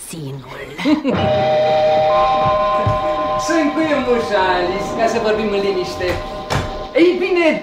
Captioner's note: laughs